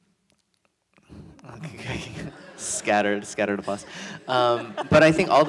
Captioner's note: audience laughs